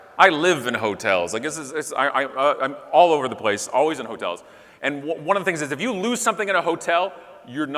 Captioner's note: none